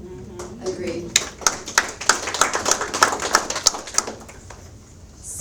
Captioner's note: audience applauds